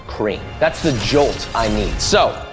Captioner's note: electricity zapping